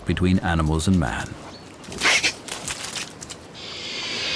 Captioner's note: boars squeal, camera clicks